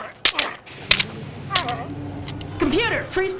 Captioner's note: Holodeck doors opening